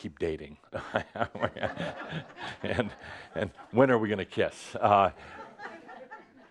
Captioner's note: chuckles; more laughter